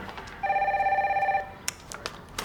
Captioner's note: phone ringing